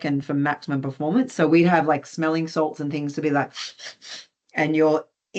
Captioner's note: sniffs